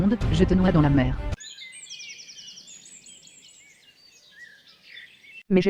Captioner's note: birds singing